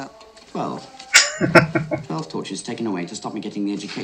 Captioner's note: laughing